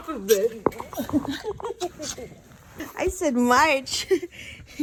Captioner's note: laughter